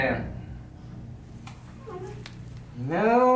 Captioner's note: girl whimpering